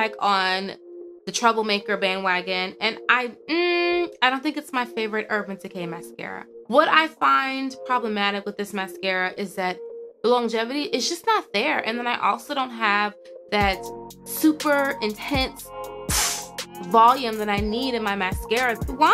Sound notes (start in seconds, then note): 16.1 puffs